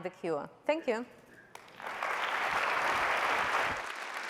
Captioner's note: applause